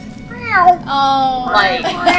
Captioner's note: meows; laughter